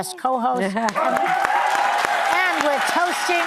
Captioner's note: applause